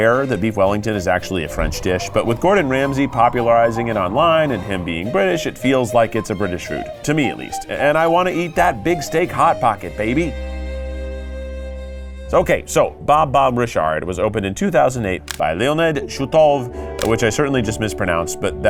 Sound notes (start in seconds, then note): 15.1 gentle music; 15.2 graphics clicking